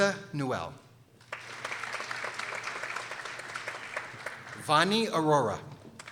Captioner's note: people applauding